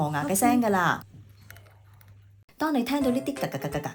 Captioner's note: teeth-grinding sound